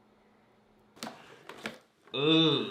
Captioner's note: plastic rattles